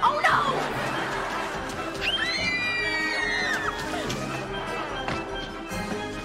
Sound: screaming

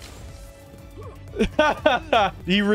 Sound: laughing

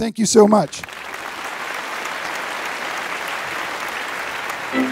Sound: applause

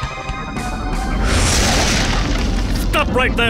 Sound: crashing

